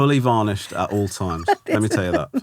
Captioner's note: laughing